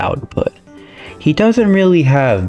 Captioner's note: inhales Oxygen